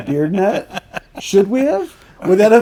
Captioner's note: laughing